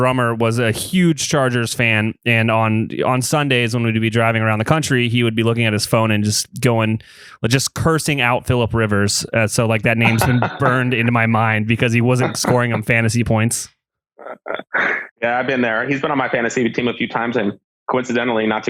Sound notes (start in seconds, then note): 9.9 laughs